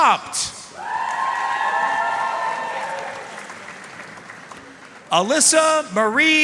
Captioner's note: audience cheering and applauding